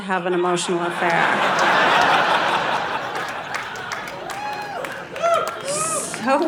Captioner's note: audience laughing